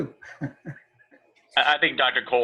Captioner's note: laughter